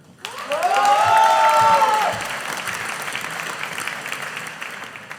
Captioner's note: audience applauding